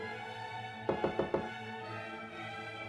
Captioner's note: classical music playing; knocking at door